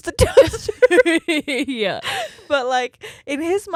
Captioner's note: laughs quickly